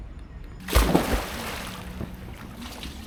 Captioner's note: splash